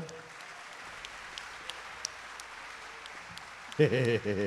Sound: audience applauding

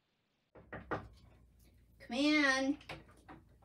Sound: knocking

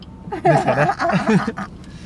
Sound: laughs

